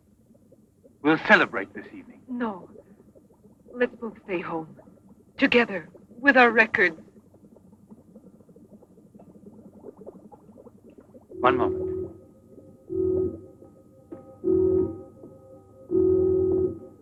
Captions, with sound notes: - We'll celebrate this evening. - No. Let's both stay home, together, with our records. (liquid burbling) - One moment. (alarm buzzing)